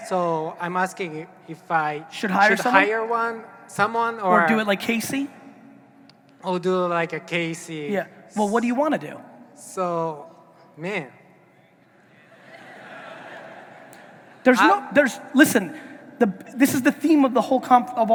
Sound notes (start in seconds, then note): 12.2 audience laughing